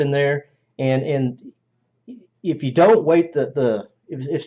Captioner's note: stammers